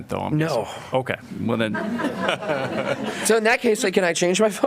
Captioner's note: laughter